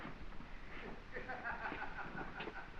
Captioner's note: laughing